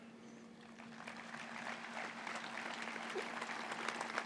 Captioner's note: applause